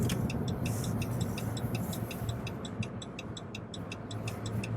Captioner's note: turn signal blinking